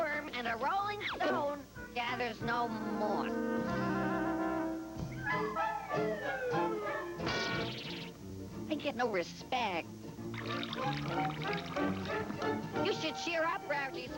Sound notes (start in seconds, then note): 4.9 thud; 10.3 water pouring